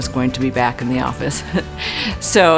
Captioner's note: laughs